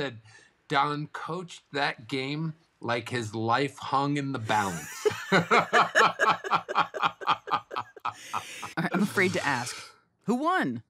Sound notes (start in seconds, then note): 4.6 both laughing